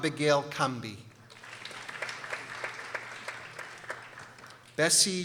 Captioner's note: people applauding